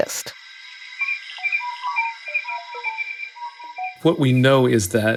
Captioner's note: high-pitched whistling